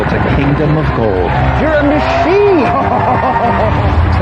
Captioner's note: laughing